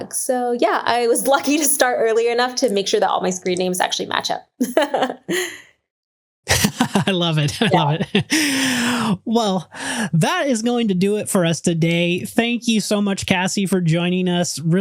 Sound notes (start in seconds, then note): 6.4 laughs